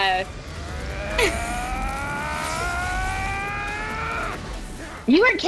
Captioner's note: ascending grunt